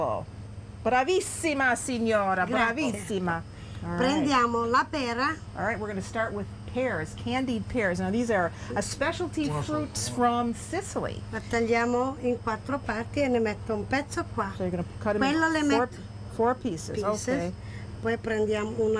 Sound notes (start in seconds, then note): 2.9 speaking Italian; 11.5 speaking Italian